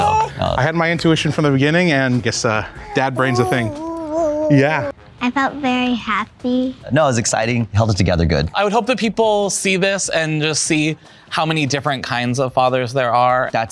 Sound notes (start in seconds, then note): 0.0 baby coos; 2.6 baby cooing